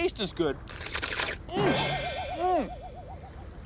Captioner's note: slurps